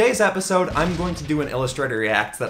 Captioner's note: exploding